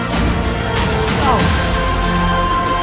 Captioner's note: eating sound effect